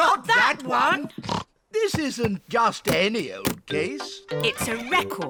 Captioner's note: snorts